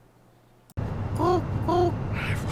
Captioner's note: Imitando pombo